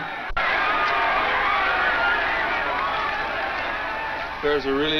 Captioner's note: crowd yelling